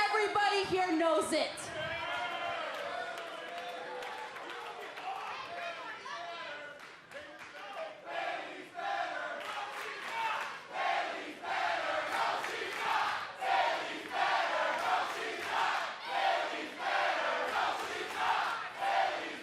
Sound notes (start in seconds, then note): 7.5 fans chanting